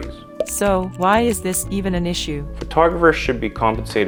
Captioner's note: voiceover